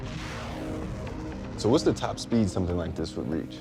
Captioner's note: rocket launching